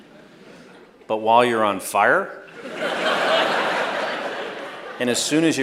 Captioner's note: laughter